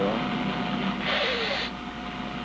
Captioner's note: sneezes